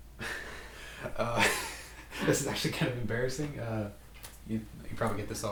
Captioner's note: laughing